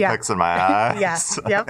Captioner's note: laughs